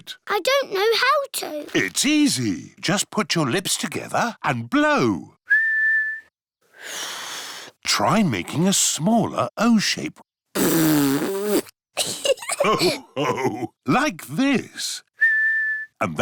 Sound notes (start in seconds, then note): 5.4 whistles; 5.5 failed whistle; 10.5 blows raspberry; 12.0 laughter; 15.1 whistles